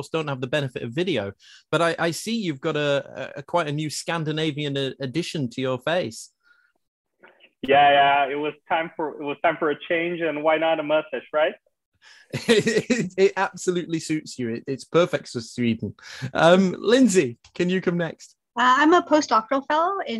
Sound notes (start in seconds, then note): 12.3 chuckling